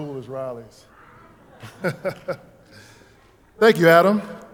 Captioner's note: laughing